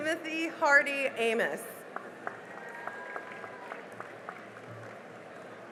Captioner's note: cheering and applause